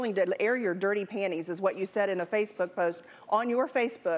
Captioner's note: none